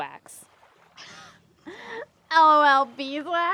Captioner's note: Janet scoffs